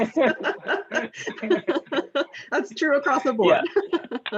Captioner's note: laughter